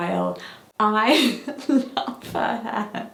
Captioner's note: laughs